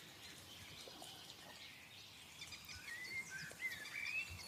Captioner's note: birds chirping